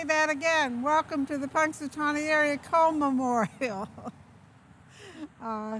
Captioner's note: laughs